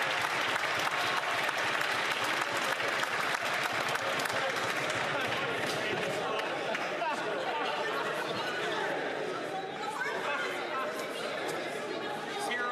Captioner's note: some Applause